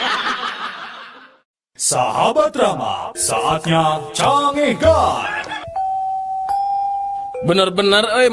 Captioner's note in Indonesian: tertawa